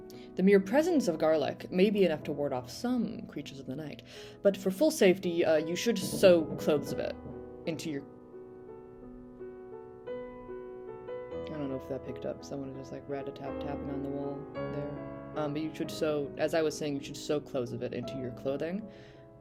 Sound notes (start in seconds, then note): 5.6 bangbangbang